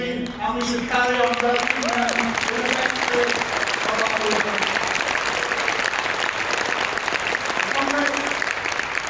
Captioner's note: applause